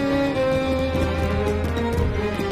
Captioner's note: fireworks